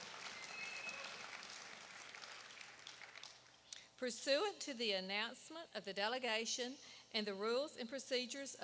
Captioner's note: applause